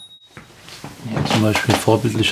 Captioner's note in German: Klingeln